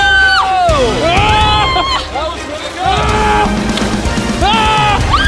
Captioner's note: cheering; yells